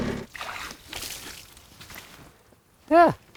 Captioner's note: water sloshes